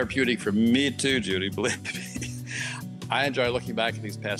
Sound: laughs

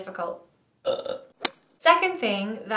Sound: burps

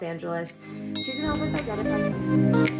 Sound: elevator ding

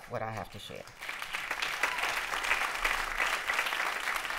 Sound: applause

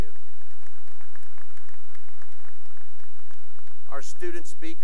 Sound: applause

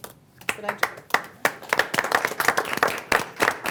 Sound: group applauding

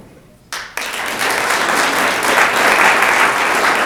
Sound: room applauds

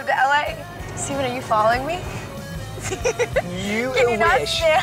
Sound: laughs

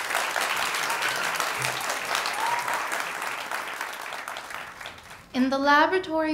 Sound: ^applause^

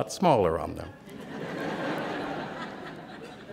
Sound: laughter

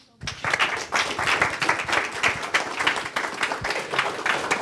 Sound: audience claps

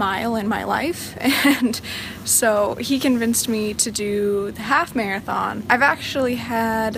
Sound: chuckling

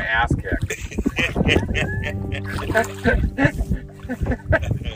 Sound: laugh

